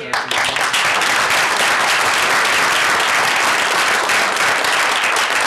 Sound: applause

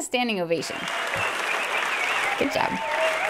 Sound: applause

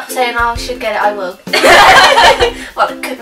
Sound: laughing

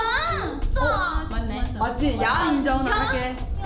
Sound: speaks in Korean

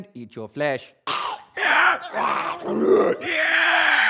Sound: actors make growling/screaming noise

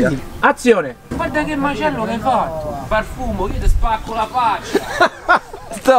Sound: in Roman accent

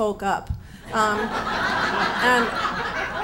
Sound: audience laughs

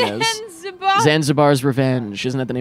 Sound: laughing

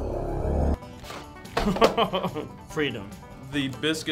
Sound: suspenseful synth music; laughing

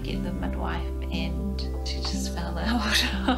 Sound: laughs

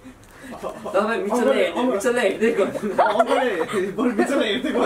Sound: in Nepali

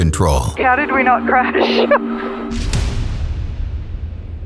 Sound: laughing

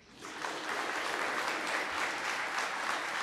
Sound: applause

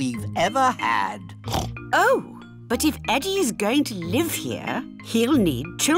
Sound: oinks

